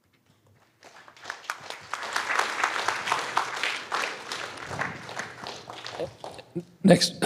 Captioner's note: applause